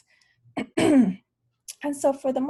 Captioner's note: clears throat